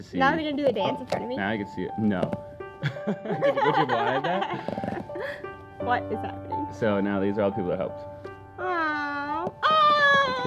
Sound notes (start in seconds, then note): 2.8 laugh